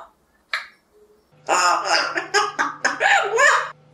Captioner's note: laughing